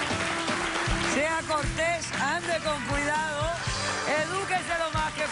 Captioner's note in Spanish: Aplausos